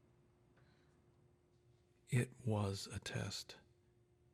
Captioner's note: narrating